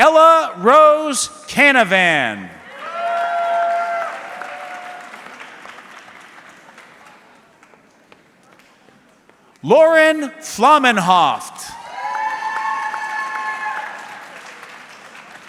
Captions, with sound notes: Ella Rose Canavan. (audience cheering) Lauren Flamenhoff. (audience cheering)